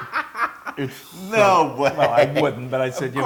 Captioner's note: laugh